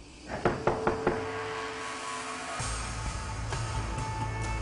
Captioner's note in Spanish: Toques en la puerta